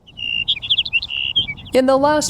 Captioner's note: birds chirping